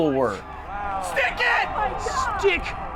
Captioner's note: crowd cheering